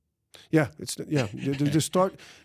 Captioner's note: laughs